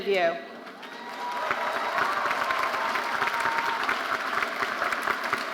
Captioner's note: audience applauding